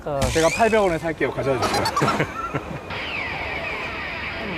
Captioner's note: ㅎㅎㅎㅎㅎㅎㅎ